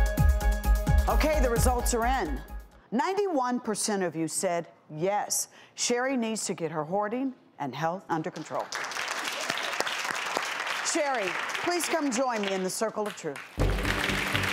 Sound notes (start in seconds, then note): 8.5 audience claps; 13.6 dramatic music; 13.7 audience claps